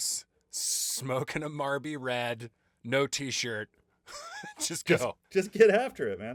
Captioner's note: laughing